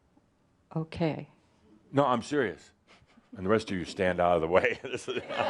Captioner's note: laughter